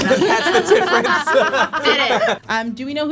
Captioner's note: all laugh